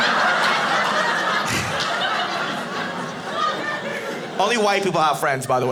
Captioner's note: audience laughing